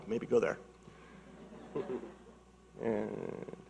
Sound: audience laughing

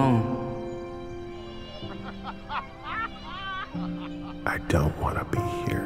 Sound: distant laughing

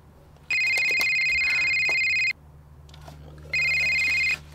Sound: phone rings

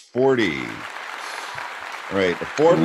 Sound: audience applauding

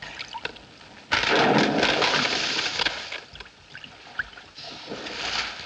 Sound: crack! Crunch! Snap!

